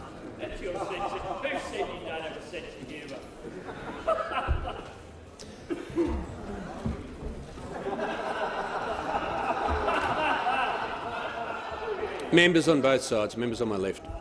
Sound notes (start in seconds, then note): 7.6 honourable members laughing